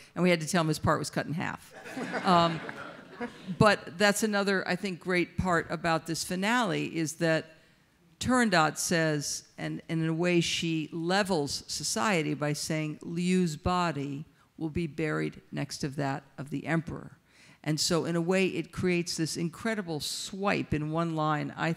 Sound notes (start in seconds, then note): 1.8 audience laughs; 1.8 laughs